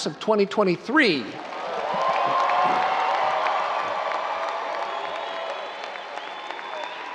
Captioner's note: audience cheering and applauding